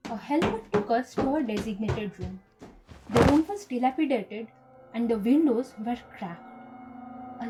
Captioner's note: wooden stairs noise, suitcase noise